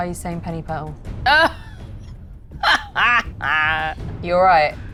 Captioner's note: cackles